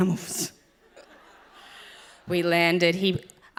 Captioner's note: audience laughs